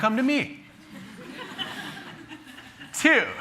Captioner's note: laughter